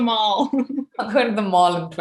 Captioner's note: laughing